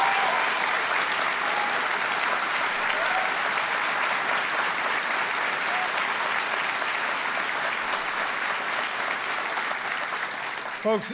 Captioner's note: applause